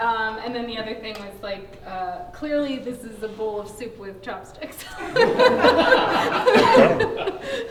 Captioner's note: laughter